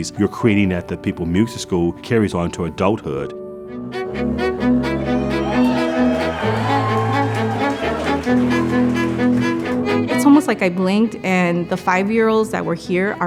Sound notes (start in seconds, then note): 3.5 string instruments playing; 4.8 audience cheering